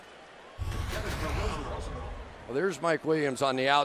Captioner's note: pa announcement